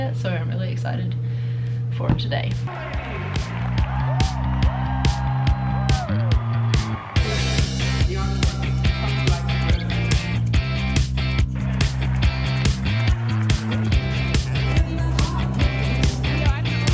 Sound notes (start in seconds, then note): 2.7 cheering; 3.4 upbeat music